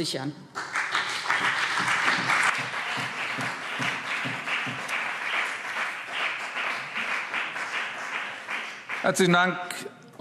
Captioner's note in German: Beifall BÜNDNIS 90/DIE GRÜNEN und CDU